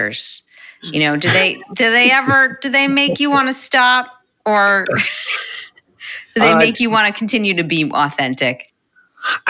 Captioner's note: laughter